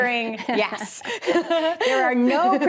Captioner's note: Lisa laughs